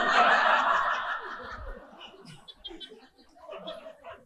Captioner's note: audience laughing